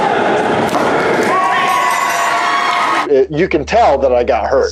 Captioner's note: bell ringing